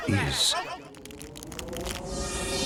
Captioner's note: cracking; wind howling